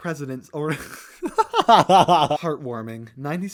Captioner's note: laughter